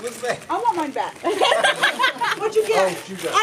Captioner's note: laughs